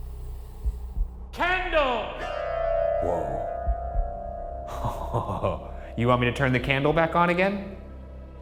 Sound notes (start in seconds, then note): 2.3 eerie dramatic music; 4.7 chuckles